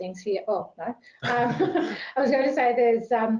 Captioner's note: laughter